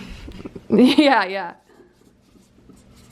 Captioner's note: laughs